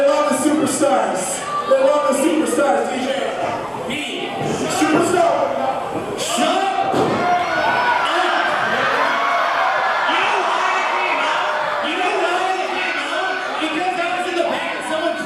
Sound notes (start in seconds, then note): 6.2 audience cheering